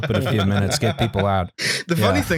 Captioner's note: laughter